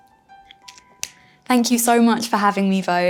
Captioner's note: marker lid clicking